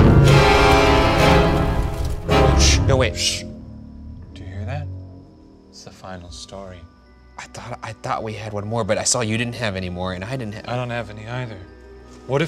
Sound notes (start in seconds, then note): 0.0 dramatic music; 3.2 shushing